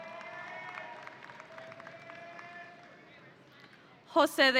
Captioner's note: audience applauding